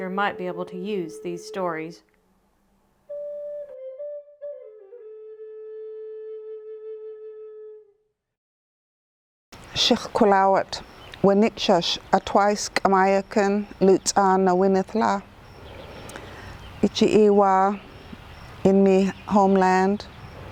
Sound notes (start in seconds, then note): 3.0 native American flute music; 9.8 speaking in foreign language